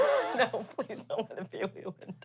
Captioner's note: laughs